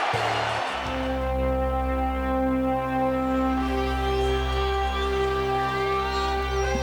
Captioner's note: crowd cheering; dramatic orchestral music